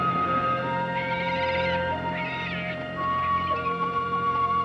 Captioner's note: birds calling